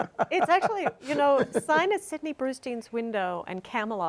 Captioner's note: laugh